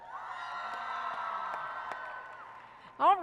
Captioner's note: applause and cheering